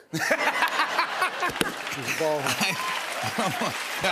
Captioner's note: laughter, applause